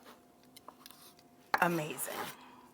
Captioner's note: knife clinks